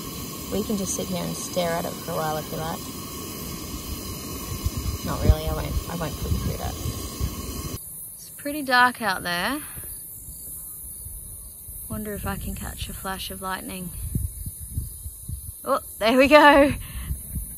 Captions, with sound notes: We can just sit here and stare at it for a while if you like. Not really, I won't - I won't put you through that. [cicadas chirp] It's pretty dark out there. Wonder if I can catch a flash of lightning. Ooh! There we go! [laughing]